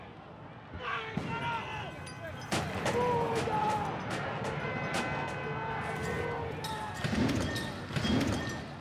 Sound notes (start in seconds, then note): 0.9 gunfire; 4.6 explosions